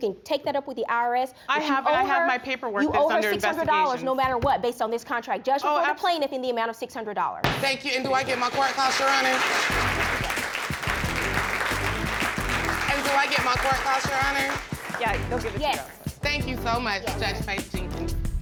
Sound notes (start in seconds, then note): 7.5 gavel banging; 11.1 applause